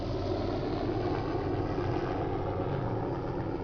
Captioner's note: sound of a helicopter